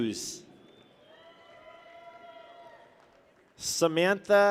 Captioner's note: people cheer